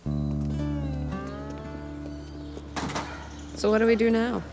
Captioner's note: somber music; door slamming